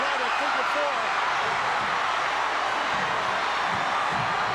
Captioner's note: audience cheering